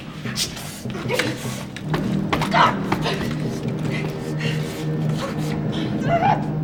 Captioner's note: suspenseful music; suspenseful music continues; both groaning